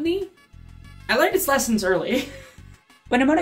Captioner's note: laugh